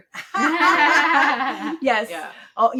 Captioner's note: laughing